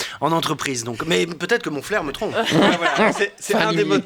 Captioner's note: laughs